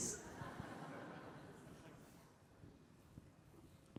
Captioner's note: audience laughing